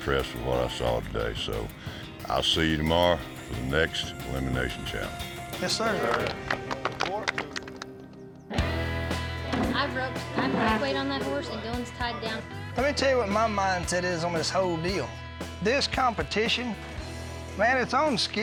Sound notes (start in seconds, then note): 5.9 clapping; 9.6 all chatter